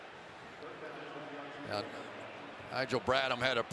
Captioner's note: pa announcement